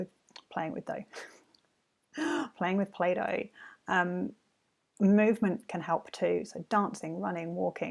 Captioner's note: laughs